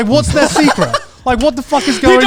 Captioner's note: laughs